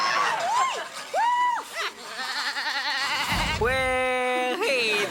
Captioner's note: Morgan imitates various animals; Morgan cheers